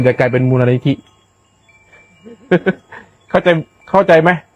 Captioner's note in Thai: เสียงหัวเราะ